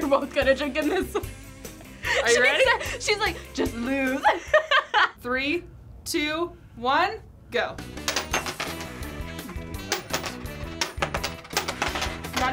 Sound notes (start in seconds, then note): 4.9 laughs; 7.9 upbeat music